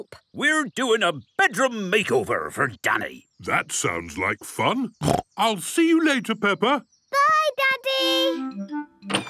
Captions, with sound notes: - We're doing a bedroom makeover for Danny. - That sounds like fun. (snorting) I'll see you later, Peppa. - Bye, Daddy!